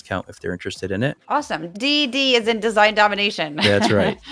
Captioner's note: laugh